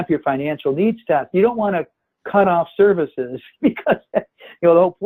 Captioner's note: laughs